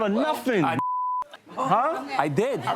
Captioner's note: beep